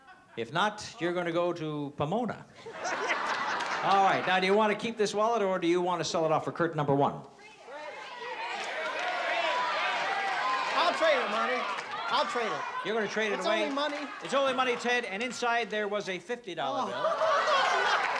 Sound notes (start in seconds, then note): 2.6 laughs; 7.4 crowd shouting